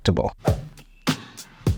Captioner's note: light music; graphics whooshing